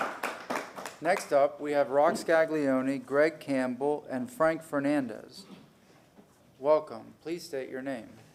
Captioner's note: applause